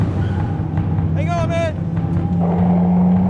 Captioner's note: tires screeching; engine revving